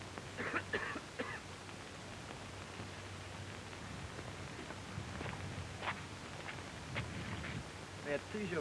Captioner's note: someone coughing nearby